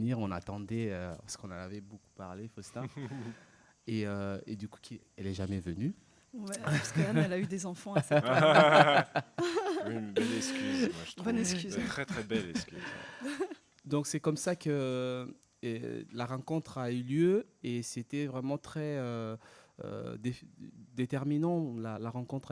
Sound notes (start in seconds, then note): 7.9 laughs